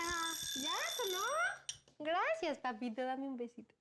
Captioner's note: speaking spanish